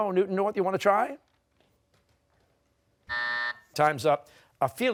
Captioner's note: buzzer